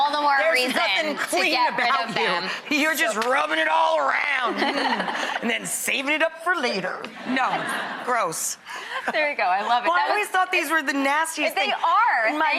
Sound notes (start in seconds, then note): 0.0 audience laughs; 4.3 all laughing; 7.0 all laughing